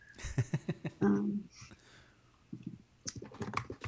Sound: laughing

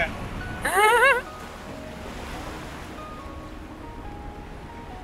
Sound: laughs

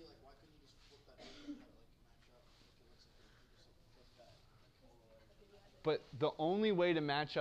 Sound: cough

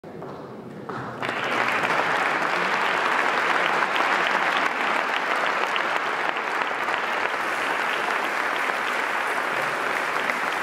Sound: applause

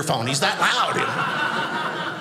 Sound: audience laughing

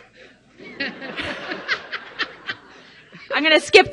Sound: laughing

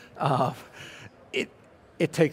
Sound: laughing

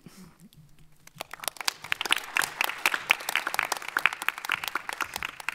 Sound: audience applauding

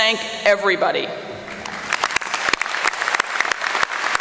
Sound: applause

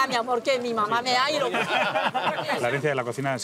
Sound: laughter

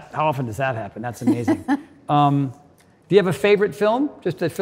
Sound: Cynthia laughs

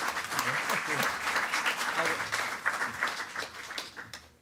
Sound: attendees clapping

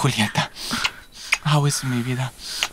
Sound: kiss

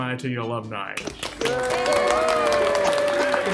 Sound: applause

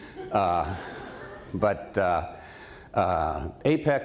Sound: laughter

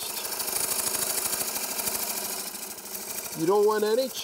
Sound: chisel scrapes

